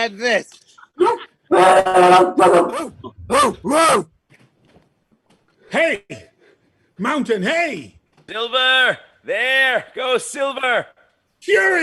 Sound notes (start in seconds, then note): 2.0 barking